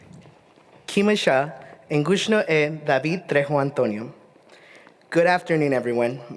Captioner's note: speaking Indigenous language